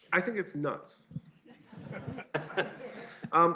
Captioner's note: laughter